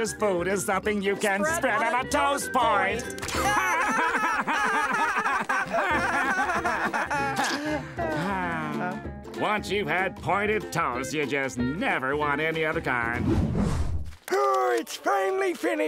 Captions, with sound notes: - something you can - spread on a toast point. [laughing] [sighing] Once you've had pointed toast, you just never want any other kind. Oh, it's finally finished.